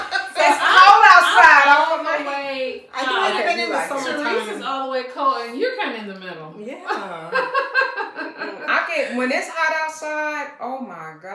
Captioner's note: laughter; laughter